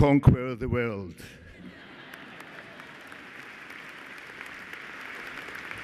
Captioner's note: applause